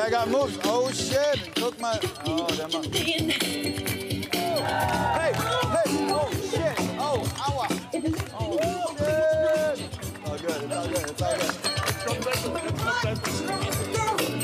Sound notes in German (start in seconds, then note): 4.4 Jubel; 12.2 Schwungvolle Musik